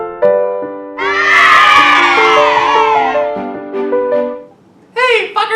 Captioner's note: children cheering; high pitched voice